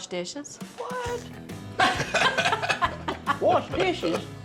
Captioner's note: everybody laughs